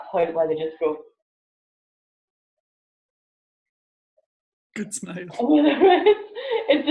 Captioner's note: laughs